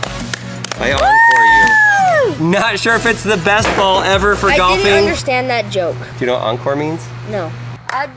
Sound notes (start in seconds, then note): 0.6 both applaud; 0.8 cheers; 3.6 drops golf ball